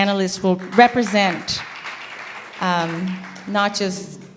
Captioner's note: applause